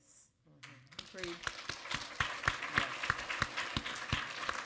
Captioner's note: audience applaud